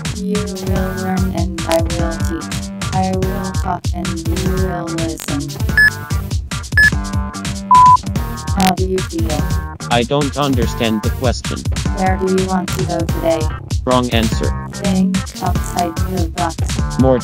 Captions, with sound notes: You will learn and I will teach I will talk and you will listen [beeps] How do you feel? [male robot voice] I don't understand the question [fe male robot voice] Where do you want to go today? [male robot voice] Wrong answer [female robot voice] Think outside the box